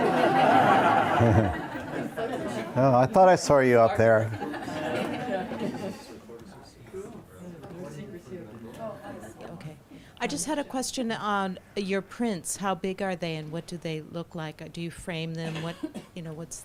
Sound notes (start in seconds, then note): 0.0 audience laughs; 3.4 overlapping chatter